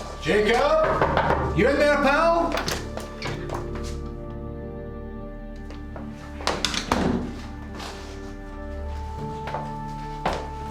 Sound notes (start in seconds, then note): 0.8 knocking; 3.9 tense orchestral music